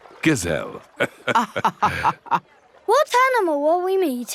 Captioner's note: both laughing